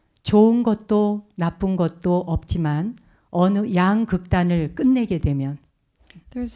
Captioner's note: speaking in Korean